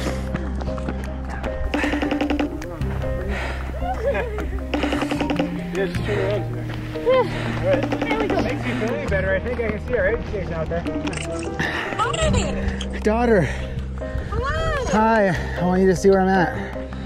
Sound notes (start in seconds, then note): 4.7 FaceTime ringing